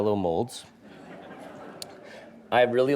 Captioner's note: audience laughing